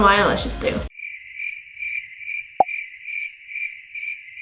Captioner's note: crickets chirping